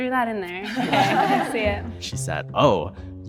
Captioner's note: group chuckles